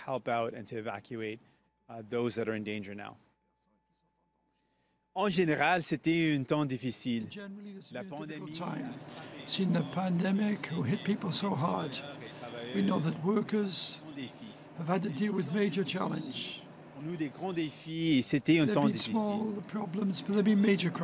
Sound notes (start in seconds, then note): 8.8 speaking French